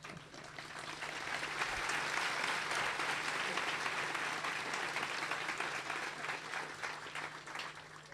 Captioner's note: clapping